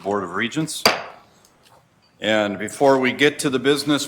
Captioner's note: gavel bangs